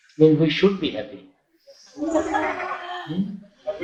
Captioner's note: laughter